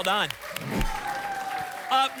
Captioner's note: whoosh